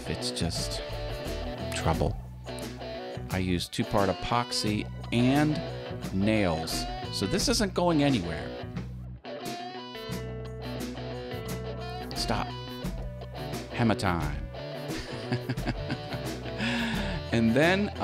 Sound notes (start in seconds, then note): 14.9 haha